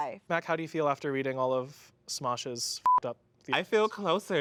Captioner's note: beep